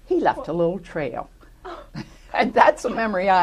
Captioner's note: laughter